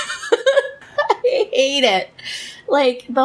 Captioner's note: laughs